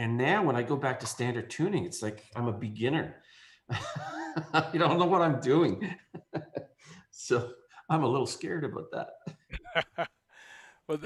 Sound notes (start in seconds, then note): 5.7 laughs; 9.2 laughs